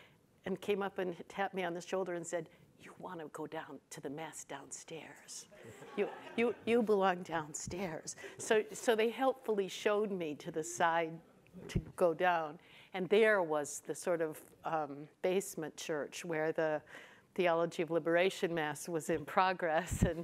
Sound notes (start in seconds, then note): 5.6 audience laughs